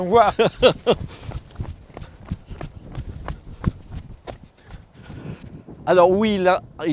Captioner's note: laughs